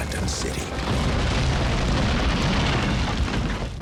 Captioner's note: explosion